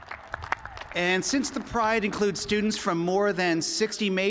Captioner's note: cheers and applause